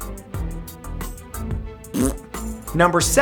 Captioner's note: fart sound